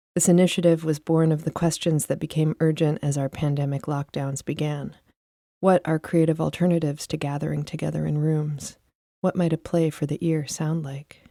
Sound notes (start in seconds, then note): none